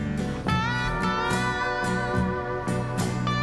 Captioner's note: none